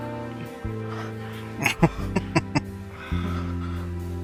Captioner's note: laughing